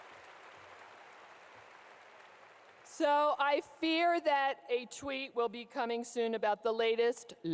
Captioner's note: clapping